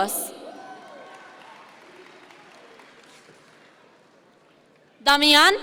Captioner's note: audience members cheer